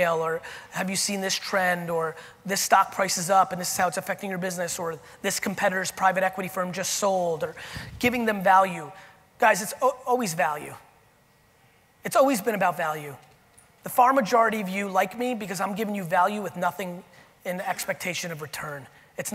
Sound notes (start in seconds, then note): none